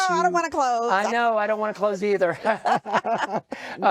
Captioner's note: chuckles; chuckling